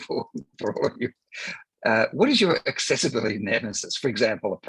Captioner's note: laughs